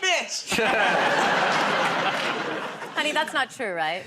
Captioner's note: laughter